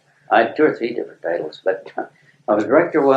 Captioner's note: laughs